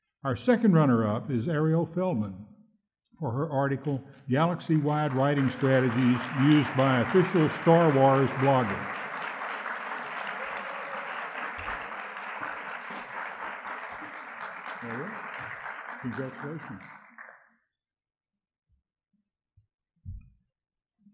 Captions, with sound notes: Our second runner-up is Arielle Feldman for her article, Galaxy-Wide Writing Strategies Used by Official Star Wars Bloggers. (audience clapping) There you go. Congratulations.